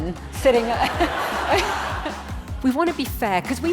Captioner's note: audience laughing